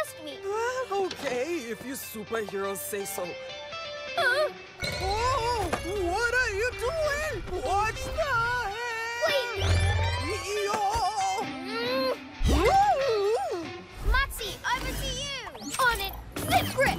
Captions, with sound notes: Aah! OK, if you superheroes say so. - (Gasps) - Whoa! What are you doing? - Watch the hair! - Wait! Yoh! - (Grunts) - Whoa! Ooh! - Motsi, over to you! - On it! Zip Grip!